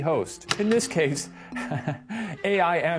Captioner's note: laughs nervously